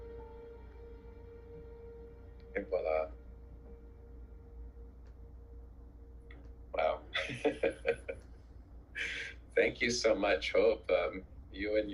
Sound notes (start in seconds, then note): 8.7 speaks foreign language; 10.8 laughs